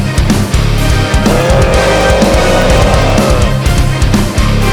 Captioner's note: growling